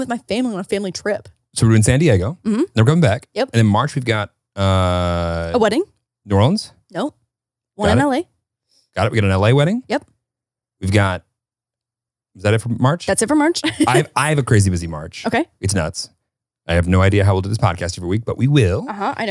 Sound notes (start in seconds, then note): 13.7 laughs